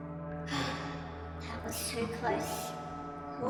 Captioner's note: sigh